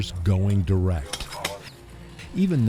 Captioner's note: sound of scraping